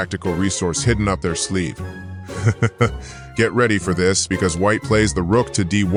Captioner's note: chuckle